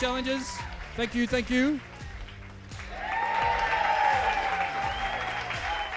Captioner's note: audience cheering